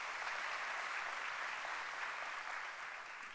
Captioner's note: applause